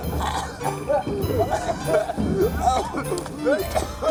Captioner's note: people laughing; people coughing